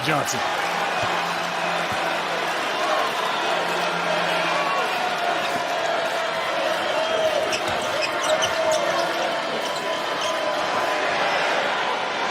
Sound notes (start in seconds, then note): 6.0 cheers and applause